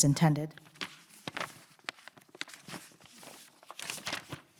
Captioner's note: paper crackling